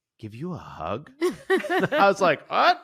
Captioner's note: chuckles